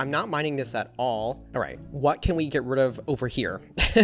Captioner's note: laughs